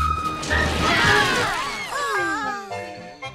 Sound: cheering

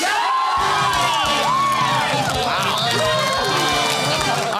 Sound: cheering and applause

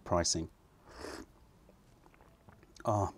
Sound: sips tea

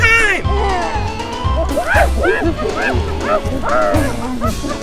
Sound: gorilla sounds

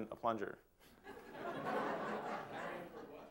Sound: laughter

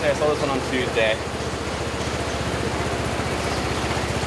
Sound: engine noise

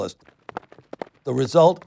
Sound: hooves clopping

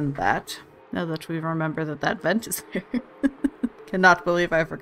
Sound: laughs

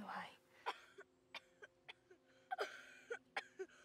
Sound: Mark coughs

